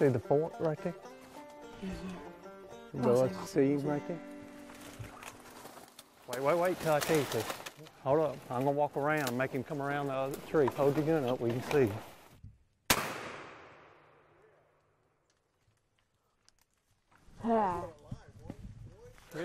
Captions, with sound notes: - You see the fork right there? - I see him, I see him, I see him. - The little, see him right there? Wait, wait, wait, 'til I tell you to. Hold up, I'm gonna walk around, make him come around the other tree. Hold your gun up where you can see him. (gunshot) - Ahh.